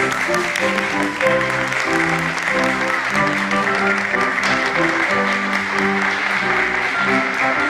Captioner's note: Aplausos